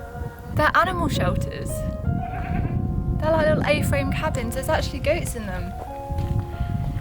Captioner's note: goats in the background